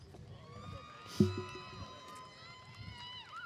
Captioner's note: cheering